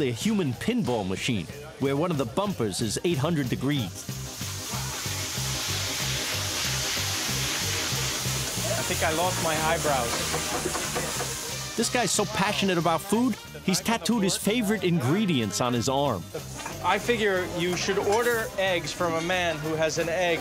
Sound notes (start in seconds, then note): 3.5 sizzling